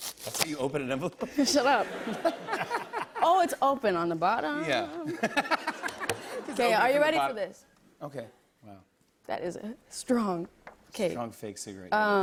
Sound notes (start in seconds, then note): 1.3 laughter; 5.0 laughter